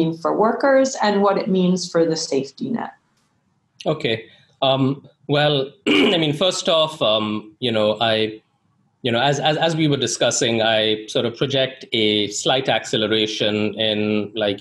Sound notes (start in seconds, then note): 5.3 clears throat